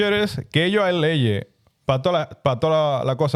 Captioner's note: speaking In Foreign Language